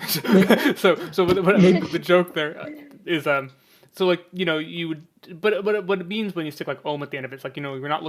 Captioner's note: laughs